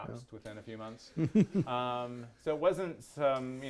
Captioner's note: attendees laughing